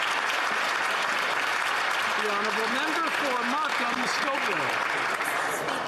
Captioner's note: some Applause